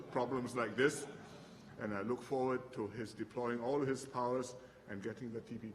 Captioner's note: laughter